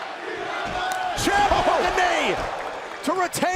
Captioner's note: crowd cheering